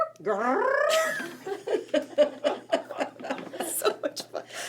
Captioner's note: group laughing